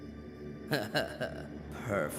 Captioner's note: Mal Laughs Evilly